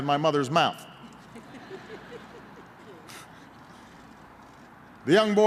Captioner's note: laughter